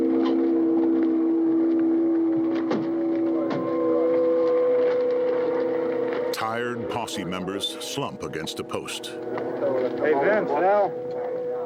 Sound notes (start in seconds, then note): 0.9 haunting music; 6.3 indistinct chatter